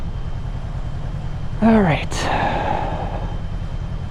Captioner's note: sigh